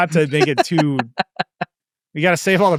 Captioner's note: laughing